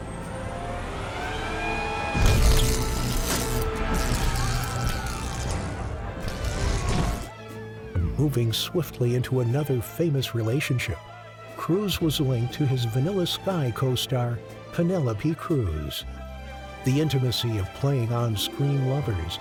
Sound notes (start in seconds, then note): 0.1 dramatic music; 3.4 people scream